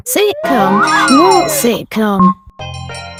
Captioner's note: end call beep; notification bell ring; video call ringtone